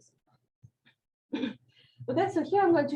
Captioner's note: clears throat